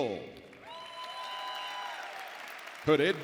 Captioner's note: audience cheering and applauding